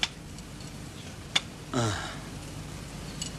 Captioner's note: groans